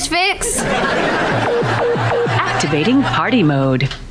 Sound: beeping

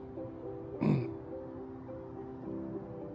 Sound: clears voice; solemn music

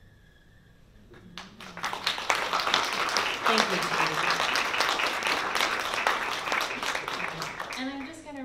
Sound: applause

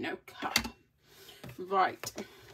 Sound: persistent heavy breathing throughout

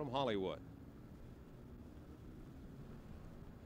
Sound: street noise

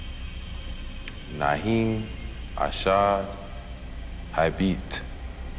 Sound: speaking in foreign language

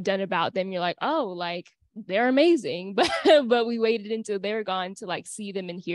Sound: laughter

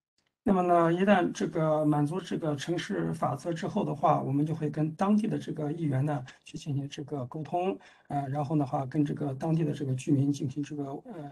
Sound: speaks in Mandarin

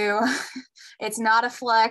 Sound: giggle

